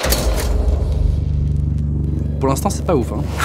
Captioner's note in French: bruit lourd